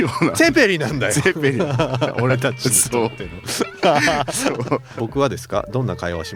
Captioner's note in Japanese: 笑い